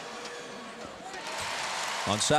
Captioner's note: crowd cheers